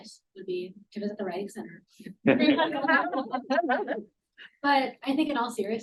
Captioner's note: all laugh